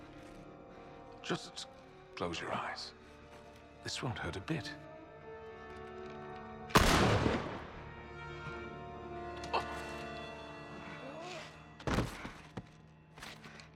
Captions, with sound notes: Just... ...close your eyes. This won’t hurt a bit. (gunshot)